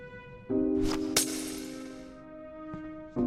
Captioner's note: sad music; potion bottle breaks; sad music